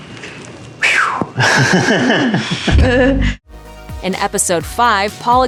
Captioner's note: nervous laughter